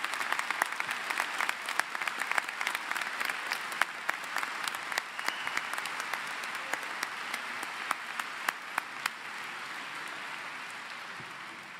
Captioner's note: applause